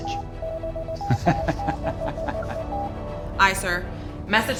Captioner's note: transmitter beeping; laughing